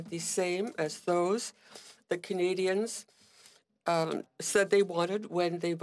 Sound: speaking French

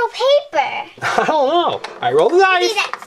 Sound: laughs

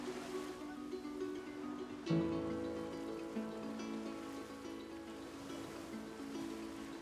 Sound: waves crash

